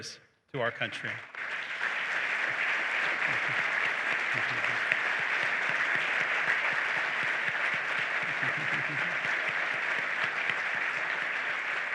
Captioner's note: applause